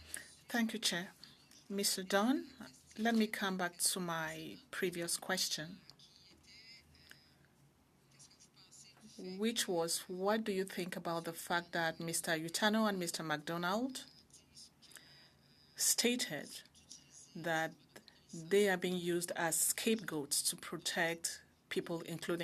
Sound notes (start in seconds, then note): 5.4 speaking French